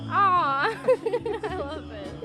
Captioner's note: laughs